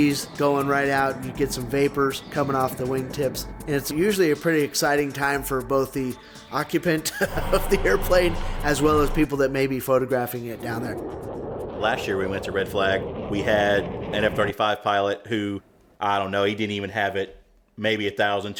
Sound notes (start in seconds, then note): 7.1 laughs; 10.5 energetic music fades